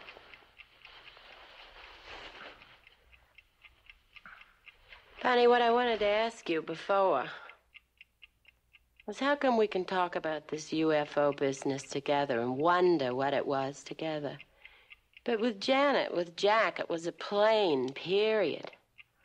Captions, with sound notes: - Good. (clock ticking) - Barney, what I wanted to ask you before, was how come we can talk about this UFO business together and wonder what it was together, but with Janet, with Jack, it was a plane, period?